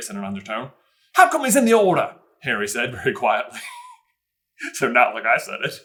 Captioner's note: aggressive; laughs